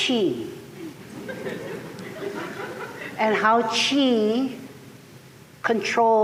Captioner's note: laughter